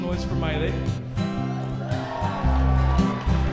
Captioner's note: cheering